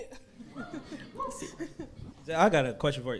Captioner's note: crowd members woo